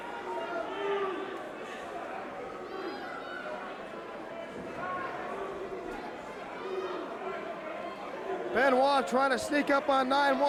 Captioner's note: crowd chatter